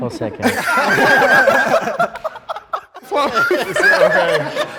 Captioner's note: group laughs